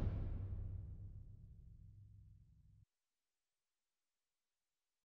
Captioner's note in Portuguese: sem áudio